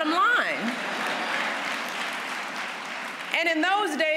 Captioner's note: applause